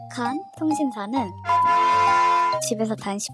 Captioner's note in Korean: 음소거 효과음